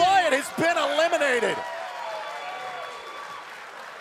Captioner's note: cheers and applause